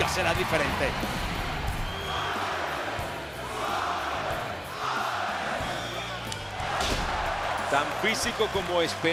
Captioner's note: applause